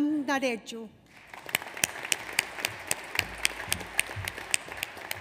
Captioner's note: audience applauds